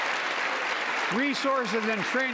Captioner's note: applause